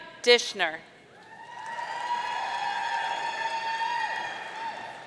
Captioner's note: audience cheering